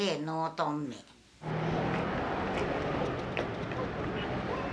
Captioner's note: passing traffic